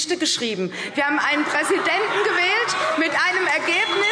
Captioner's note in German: Beifall CDU – Lachen SPD – Glockenzeichen